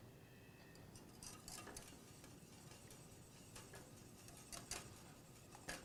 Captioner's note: whisk scraping pan